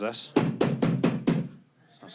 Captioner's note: loud bangs